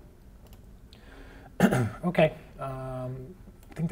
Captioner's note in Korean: 기침